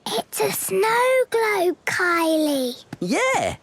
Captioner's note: whispering